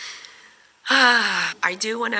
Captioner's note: 𝘴𝘪𝘨𝘩